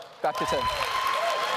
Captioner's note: applause